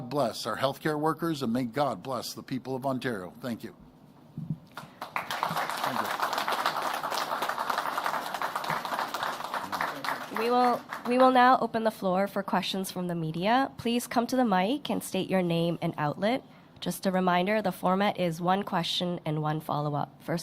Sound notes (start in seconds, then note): 6.4 applause